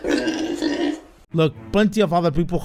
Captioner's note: pig noises